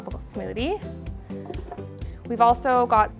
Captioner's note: fruit dropping